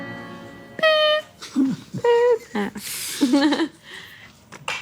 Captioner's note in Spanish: Imita sonido electrónico